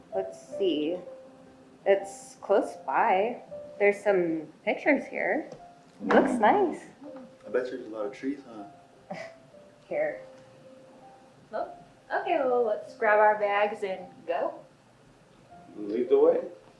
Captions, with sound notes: Let's see. It's close by. There's some pictures here. - Ooh. - It looks nice. - Yeah. - I bet you there's a lot of trees, huh? - (chuckles) Here. - Well, okay, well let's grab our bags and go. - Lead the way.